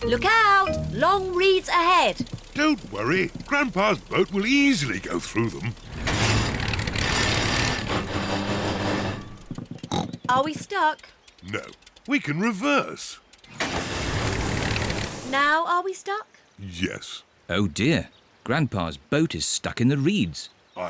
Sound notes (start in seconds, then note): 6.1 clunks and splutters; 9.8 snorts